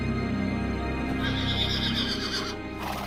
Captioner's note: Bucephalus whinnying